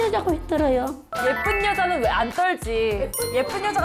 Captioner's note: impressed sound effect